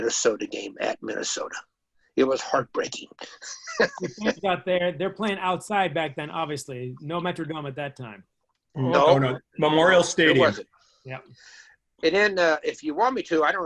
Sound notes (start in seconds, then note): 3.1 laughs